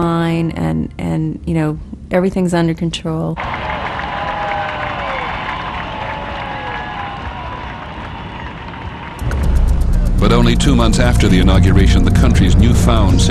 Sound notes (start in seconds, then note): 3.4 applause